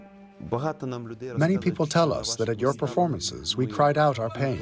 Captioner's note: through translator